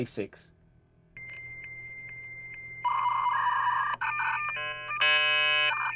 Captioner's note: beeping